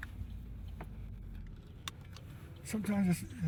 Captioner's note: seatbelt clicks